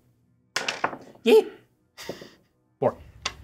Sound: die thuds

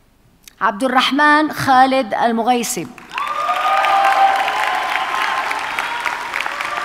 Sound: audience cheers and applauds

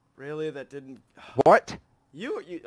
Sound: super sighin

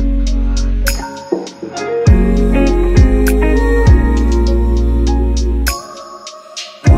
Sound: ooh-ooh-ooh-ooh-ooh

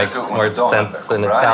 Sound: speaks italian

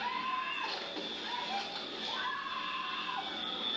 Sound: people screaming

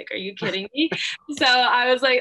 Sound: laughing

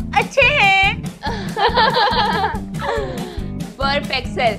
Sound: laughing

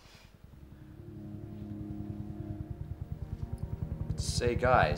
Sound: regular thumping

